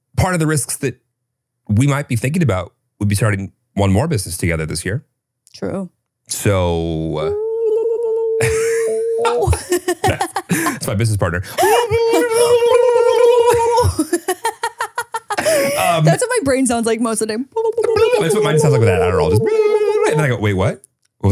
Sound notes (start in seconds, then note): 8.3 laughing; 13.6 laughing